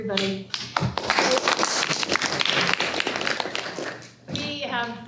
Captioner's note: applause